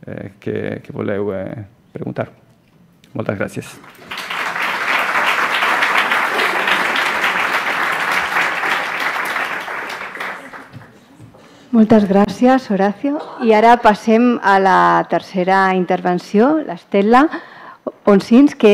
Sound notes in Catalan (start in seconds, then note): 7.1 Aplaudiments